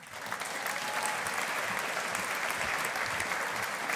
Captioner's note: audience applauding